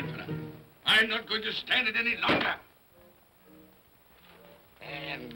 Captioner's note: thumps on desk